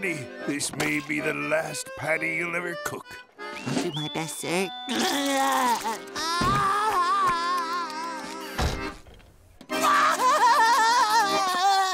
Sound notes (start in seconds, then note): 4.9 crying; 9.7 crying